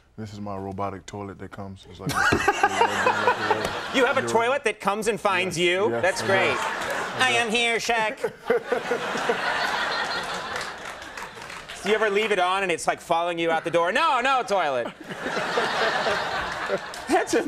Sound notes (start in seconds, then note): 2.1 laughing; 7.2 speaking in a robotic voice; 8.0 laughter; 14.6 audience laughing